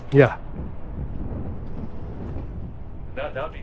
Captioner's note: wind blowing